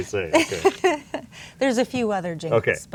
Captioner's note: laughs